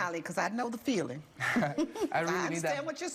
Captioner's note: laughs